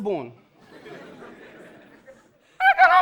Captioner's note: audience laughing